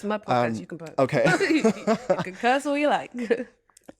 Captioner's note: laughter